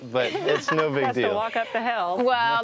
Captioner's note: laughs